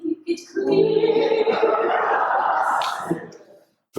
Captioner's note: laughter